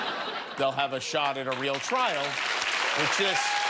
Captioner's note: laughter; cheers and applause